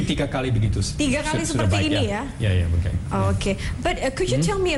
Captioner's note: non-english speech; non-english speech